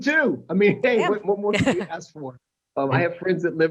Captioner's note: laughter